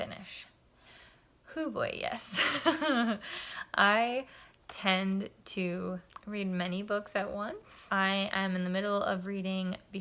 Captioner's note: laughter